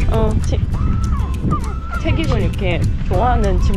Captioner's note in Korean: 낑낑 낑낑